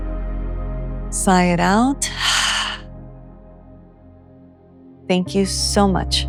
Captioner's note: heavy exhale